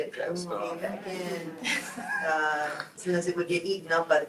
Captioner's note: group laughs